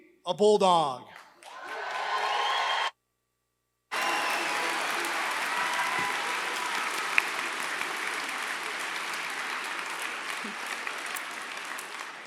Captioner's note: applause